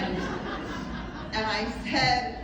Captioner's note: more laughter